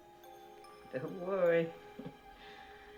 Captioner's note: chuckles